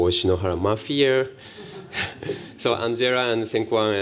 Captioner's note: laughter